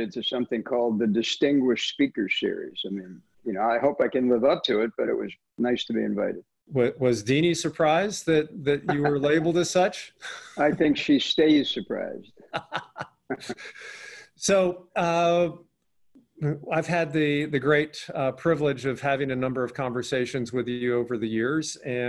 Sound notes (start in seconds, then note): 12.4 laughing